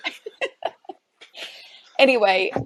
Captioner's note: chuckles softly; laughs